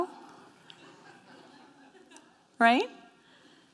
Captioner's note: scattered snickering